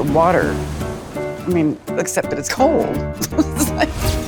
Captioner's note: laughs